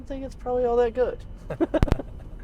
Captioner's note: laughter